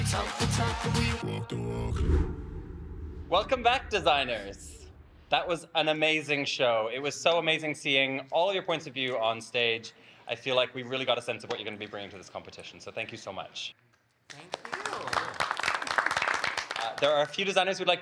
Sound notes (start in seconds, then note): 1.9 image whooshes; 14.2 group applauding